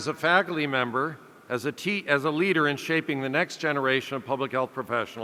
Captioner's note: none